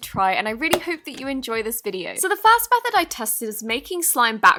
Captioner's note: ball bounces